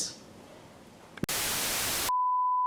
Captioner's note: tv static